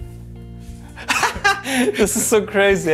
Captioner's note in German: Lachen